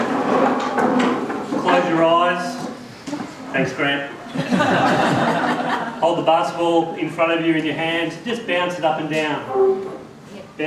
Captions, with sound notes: Close your eyes. Thanks Greg. (laughter) Hold the basketball in front of you in your hand, just bounce it up and down.